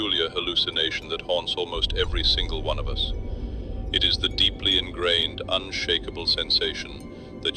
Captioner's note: breath